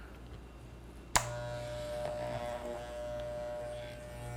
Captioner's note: razor buzzing